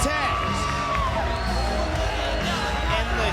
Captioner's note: spectators cheering